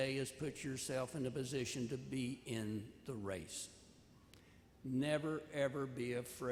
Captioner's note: none